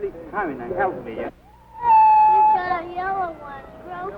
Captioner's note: crying child